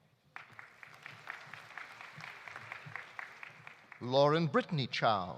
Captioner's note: audience applauding